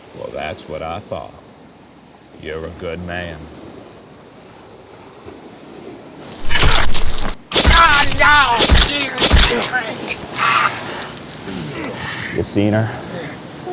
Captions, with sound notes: - Well, that's what I thought. You're a good man. (flesh squelching) (uncle groaning) You seen her?